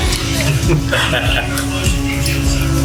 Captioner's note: laughs heartily